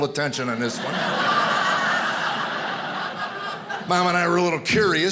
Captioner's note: audience laughing